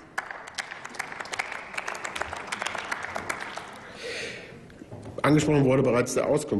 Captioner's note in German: Applaus